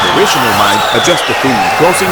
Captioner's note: wild applause and cheering for 22 seconds